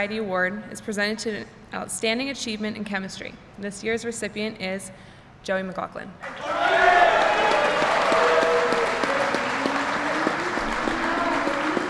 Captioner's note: applause